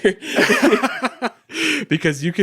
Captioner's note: laughing